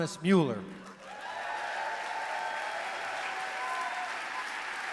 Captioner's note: applause